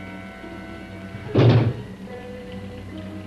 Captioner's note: knocks